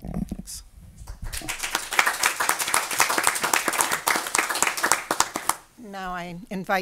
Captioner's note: audience applause